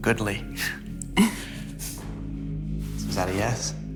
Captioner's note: gentle laughter